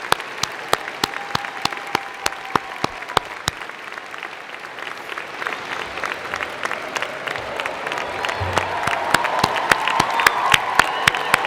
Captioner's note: cheers and Applause